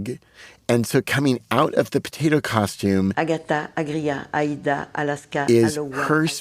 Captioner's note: speaking French